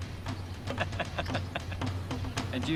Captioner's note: chortling